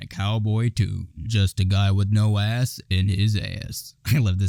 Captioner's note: in a deep-ish voice